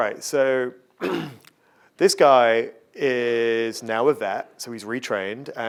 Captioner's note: coughing